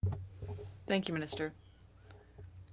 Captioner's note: speaking French